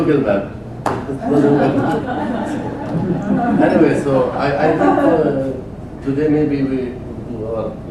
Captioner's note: laugh